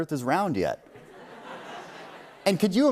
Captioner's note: laughter